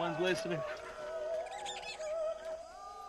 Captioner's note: chattering